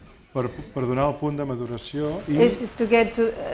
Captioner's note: speaking spanish